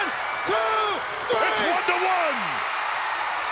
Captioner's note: crowd cheering